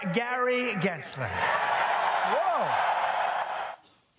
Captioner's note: audience cheers